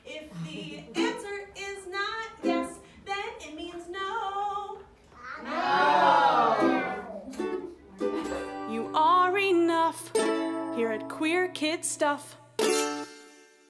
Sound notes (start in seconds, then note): 5.4 crowd